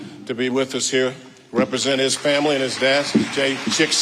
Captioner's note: audience applauding